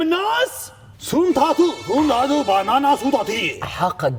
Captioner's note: in a made up language